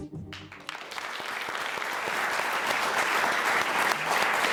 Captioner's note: audience applauding